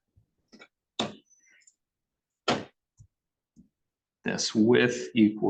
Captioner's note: object thudding